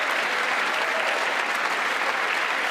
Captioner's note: applause